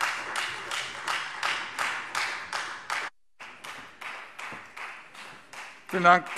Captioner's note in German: Beifall Freie Demokraten